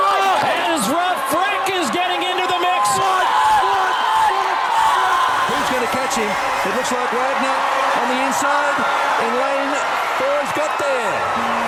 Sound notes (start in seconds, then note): 4.0 supporters cheering